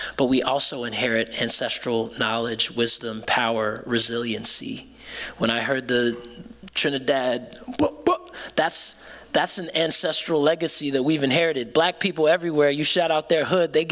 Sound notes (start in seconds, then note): 7.6 imitating a beat